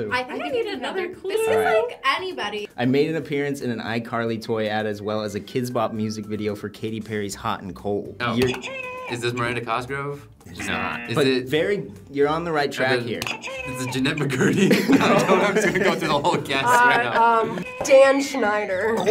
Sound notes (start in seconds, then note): 8.5 buzzer rings; 13.3 buzzer rings; 14.3 both laugh